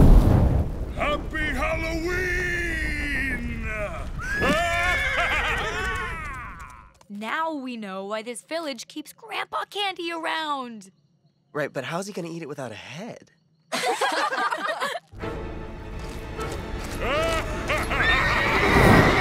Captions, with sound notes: Happy Halloween! ( laughing evilly ) Now we know why this village keeps grandpa candy around! Right, but how's he going to eat it without a head? ( laughing ) ( laughing evilly )